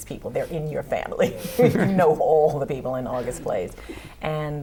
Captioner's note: laughter